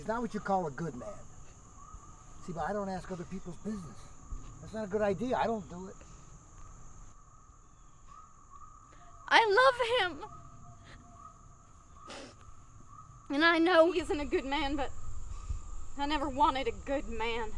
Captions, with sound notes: - Look, he's not what you call a good man. See, but I don't ask other people's business. That's not a good idea, I don't do it. - I love him (sobs), and I know he isn't a good man, but I never wanted a good man.